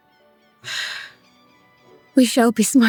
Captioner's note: sigh